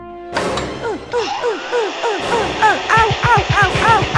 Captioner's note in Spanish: sonido motor